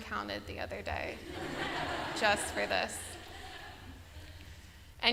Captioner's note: laughter